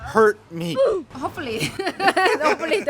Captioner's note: laughs